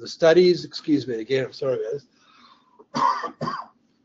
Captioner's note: coughs